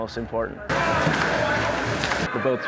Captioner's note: shouting